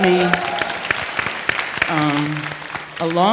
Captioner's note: audience cheers